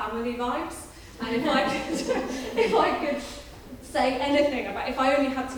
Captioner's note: laughs